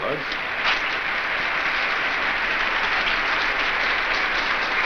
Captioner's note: audience applauds